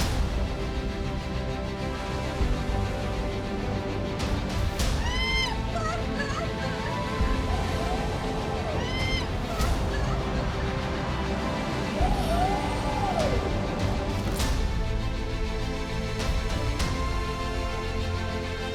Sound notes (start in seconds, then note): 5.3 skydiver shouting; 13.8 suspenseful music